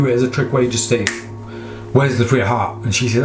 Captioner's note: snapping fingers